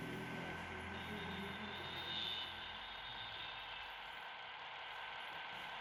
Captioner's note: 2424 screeches to a halt off-screen